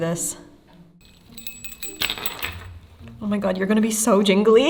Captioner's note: bells jingling